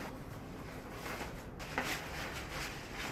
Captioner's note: rustling